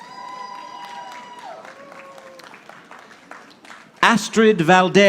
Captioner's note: audience applauding